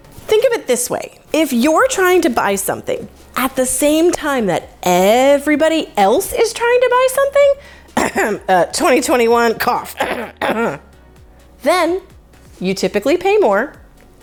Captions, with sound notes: think of it this way. If you're trying to buy something at the same time that everybody else is trying to buy something, (cough) 2021 (cough) then you typically pay more